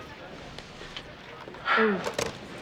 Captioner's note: Evan sighing